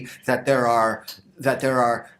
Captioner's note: none